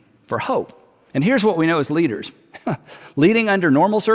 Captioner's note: chuckles